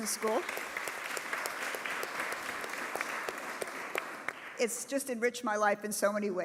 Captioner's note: applause